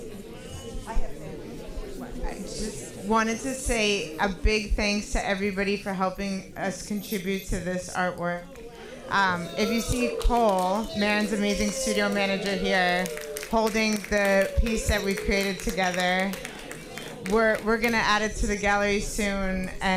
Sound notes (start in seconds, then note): 0.4 speaking softly